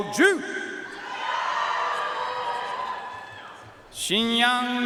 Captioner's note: audience cheering and applauding